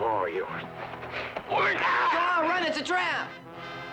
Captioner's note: screams